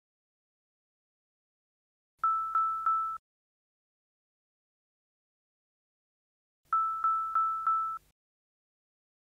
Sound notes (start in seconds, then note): 0.6 device beeping three times; 5.2 device beeping four times